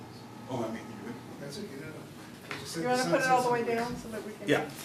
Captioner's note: panelists chatting